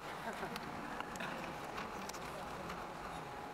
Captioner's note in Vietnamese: tiếng cười